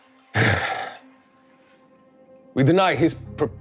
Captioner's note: throat clearing; sighing